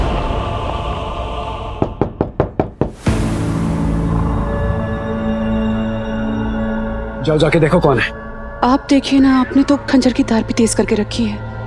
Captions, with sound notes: [knock on the door] [suspenseful music] Just go and see who it is. You see. You have sharpened your dagger too.